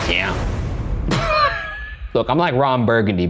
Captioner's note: laughing